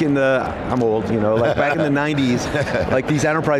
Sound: laughs

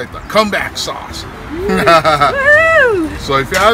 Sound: laughs

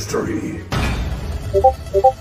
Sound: keyboard pressing

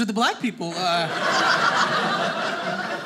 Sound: audience laughing

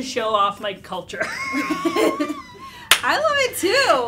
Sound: laughter

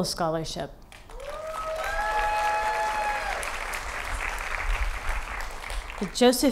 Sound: applause

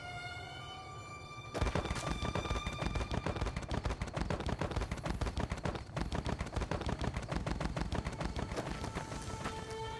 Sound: more ragdoll noises

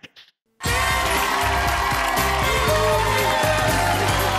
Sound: audience cheering

